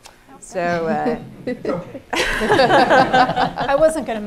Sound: laughing

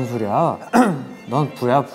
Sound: clears his throat

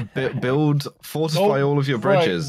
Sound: stammers

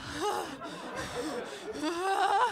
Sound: panting

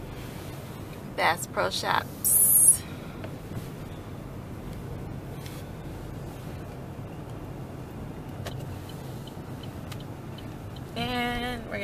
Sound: car signal

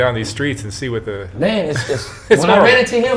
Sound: interviewer laughs

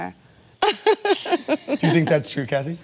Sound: laughing

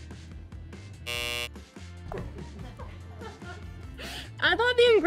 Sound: buzzer buzzes

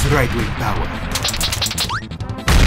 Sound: powerful slaps

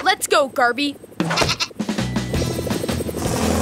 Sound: bleating

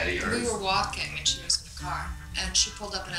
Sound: voiceover

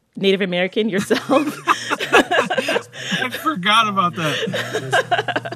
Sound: laughter

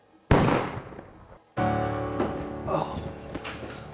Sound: gun fires

